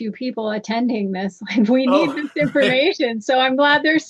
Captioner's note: laughter